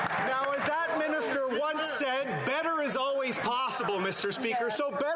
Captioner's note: applause